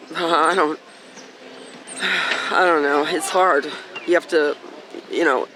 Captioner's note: sighing